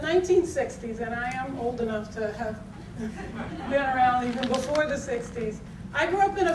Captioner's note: audience tittering